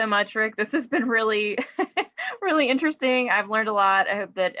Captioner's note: chuckles